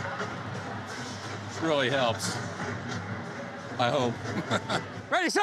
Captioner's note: chuckles